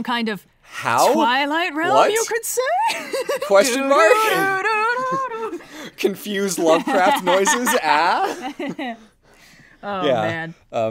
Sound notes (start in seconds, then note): 2.7 laughs; 4.8 hums X-Files theme again; 9.6 laughs